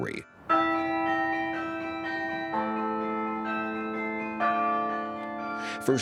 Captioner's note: bells ringing in harmony